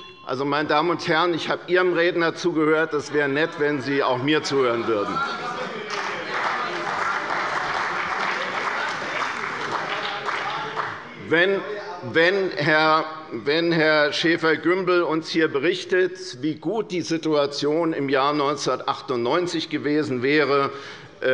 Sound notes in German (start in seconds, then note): 5.8 Beifall bei der CDU und dem BÜNDNIS 90/DIE GRÜNEN